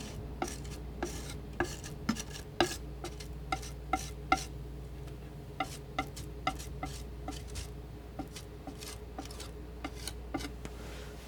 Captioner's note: scratching